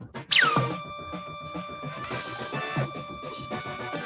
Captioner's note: laser sound